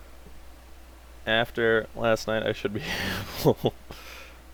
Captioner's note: laughing